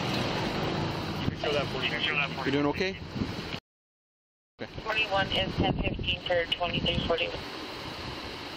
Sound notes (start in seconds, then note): 4.6 radio chatter